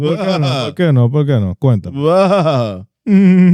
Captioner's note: speaking In Foreign Language